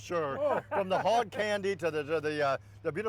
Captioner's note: laughter